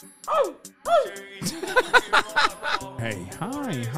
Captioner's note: laughter